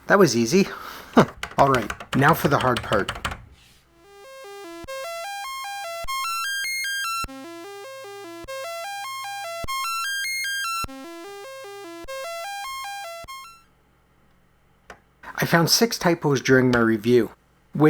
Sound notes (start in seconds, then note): 1.0 chuckles; 5.8 rising and falling computer tones